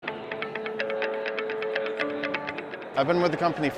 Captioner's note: mood music; indistinct background chatter